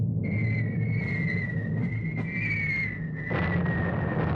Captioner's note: bombs whistling